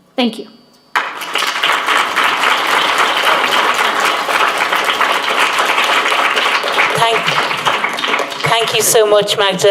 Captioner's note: applause